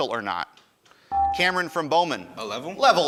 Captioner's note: ding